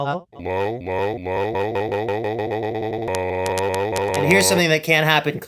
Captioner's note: pitched down, sped up, glitchy!